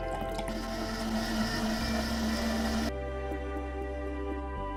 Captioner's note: juice pouring; blender whirring; thoughtful music